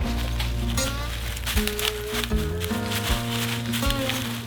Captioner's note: dry leaves rustling